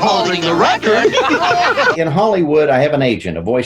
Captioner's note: all laugh